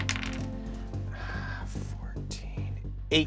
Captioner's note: rolls dice